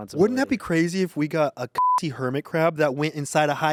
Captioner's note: beep